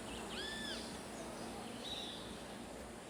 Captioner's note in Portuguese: pássaros cantando